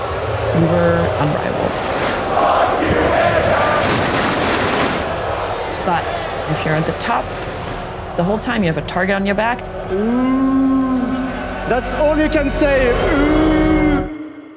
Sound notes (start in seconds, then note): 2.2 crowd chanting; 9.5 imitating booing; 12.9 imitating booing